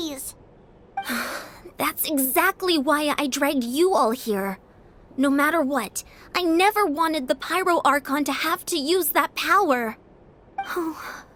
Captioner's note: sigh